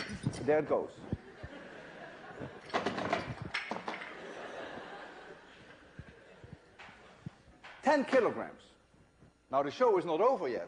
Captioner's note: laughter; loud racket, weights falling, more laughter